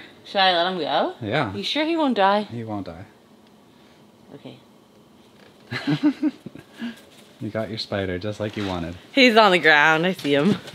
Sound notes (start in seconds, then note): 5.7 laughing